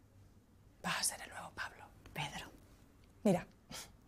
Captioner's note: whispers